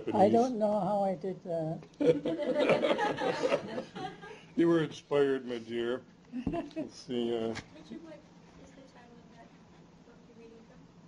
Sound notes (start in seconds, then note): 2.0 laughter; 6.2 chuckles